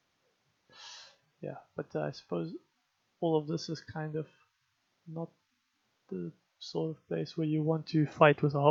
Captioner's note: sigh